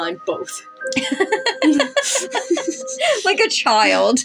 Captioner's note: giggle; laugh